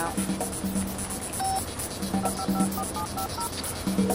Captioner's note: telephone dialing; ringing